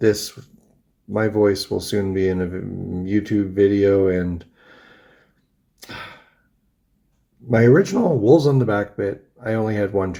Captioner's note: sighs